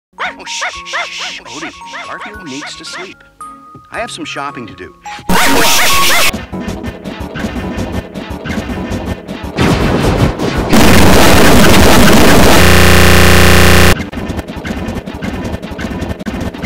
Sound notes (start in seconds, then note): 0.2 odie barking, jon shushing; 5.3 odie barking loudly